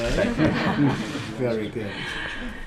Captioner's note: laughter